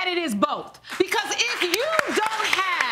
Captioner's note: audience clapping